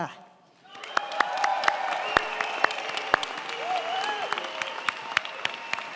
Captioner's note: crowd cheering; crowd clapping